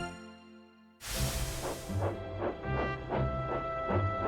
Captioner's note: chug chug